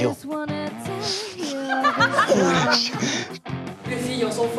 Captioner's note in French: Rires